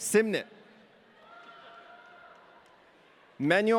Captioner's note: audience cheering